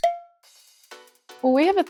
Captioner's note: cowbell clinks